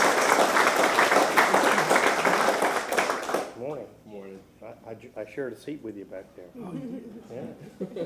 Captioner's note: applause